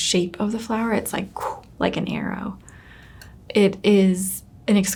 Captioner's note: blows